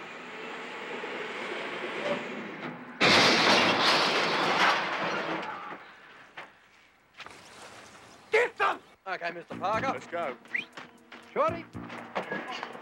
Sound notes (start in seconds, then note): 2.5 car crashing; 10.5 Pop whistles